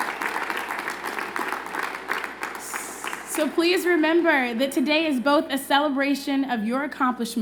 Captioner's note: applause